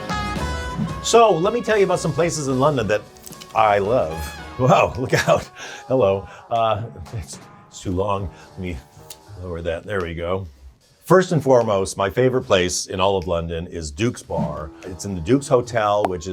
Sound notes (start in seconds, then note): 4.9 chuckles